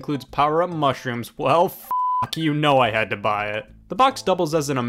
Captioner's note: beep